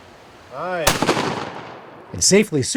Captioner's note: shot banging; arrow swooshing